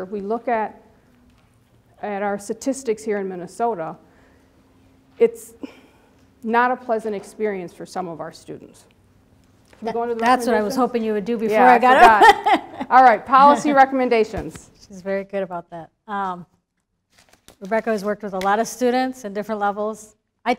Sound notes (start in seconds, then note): 11.9 both laughing